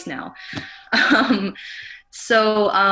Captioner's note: giggles